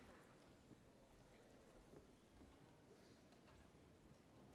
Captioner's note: none